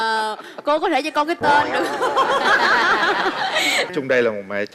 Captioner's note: laugh